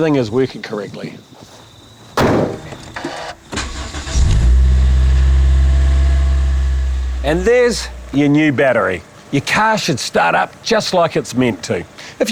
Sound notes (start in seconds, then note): 2.9 engine starting